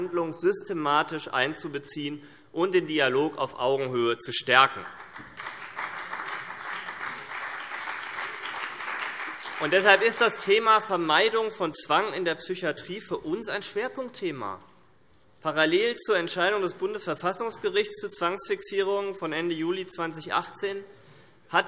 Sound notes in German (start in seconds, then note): 4.8 Beifall BÜNDNIS 90/DIE GRÜNEN und vereinzelt CDU